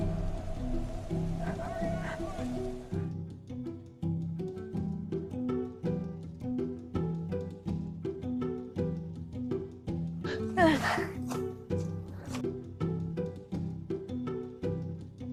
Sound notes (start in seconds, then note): 2.1 shouting